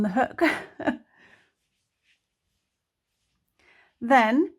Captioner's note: laughs